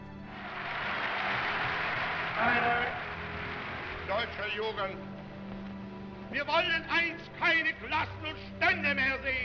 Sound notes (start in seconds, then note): 0.0 crowd applauding; 2.2 in German